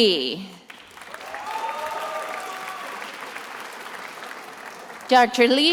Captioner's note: attendees applauding